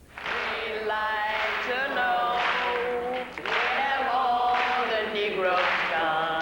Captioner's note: crowd clapping in time